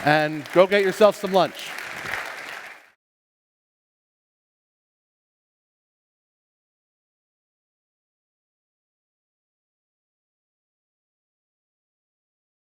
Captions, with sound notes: And go get yourself some lunch. [APPLAUSE]